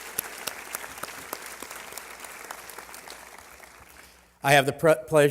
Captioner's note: applause